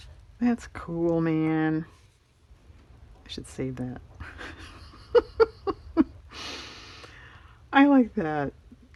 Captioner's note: laughs